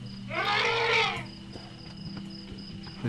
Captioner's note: trumpeting